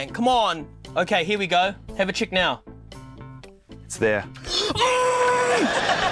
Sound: strains

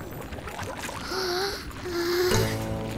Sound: gasping

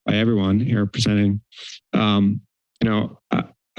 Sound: inhales

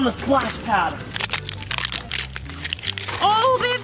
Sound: crunching paper unwrapping

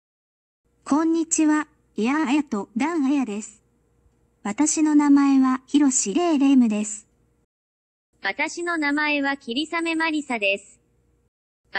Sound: speaking Japanese

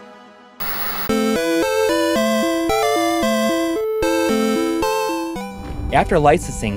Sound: game audio

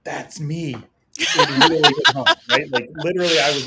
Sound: women laughing

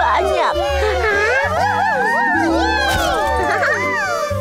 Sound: laughs loudly

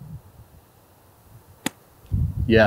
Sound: golf club whacking

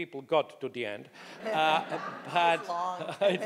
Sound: audience laughing

